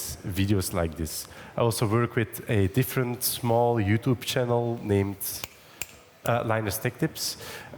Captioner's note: snaps fingers